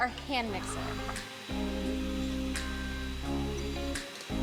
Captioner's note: hand mixer whirling